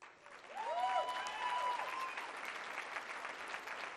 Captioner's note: cheering and applause